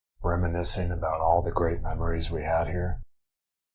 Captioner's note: none